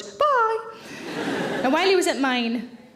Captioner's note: audience laughing